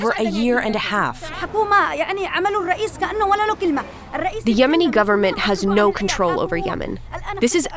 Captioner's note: through translator